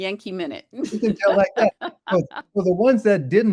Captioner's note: laughs